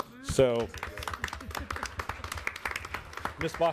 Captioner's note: audience clapping